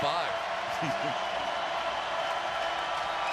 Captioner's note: laughs